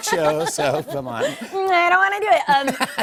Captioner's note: laughs